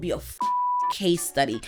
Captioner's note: beep